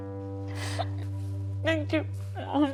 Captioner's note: sniffs